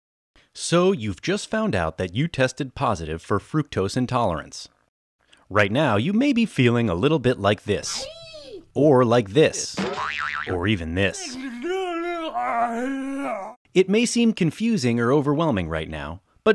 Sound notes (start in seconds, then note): 9.8 spring boing